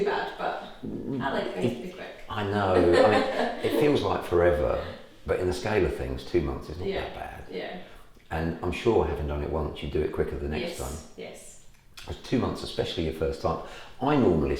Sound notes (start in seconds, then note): 2.3 laughs